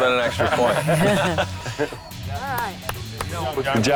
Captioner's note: lalaugughthterer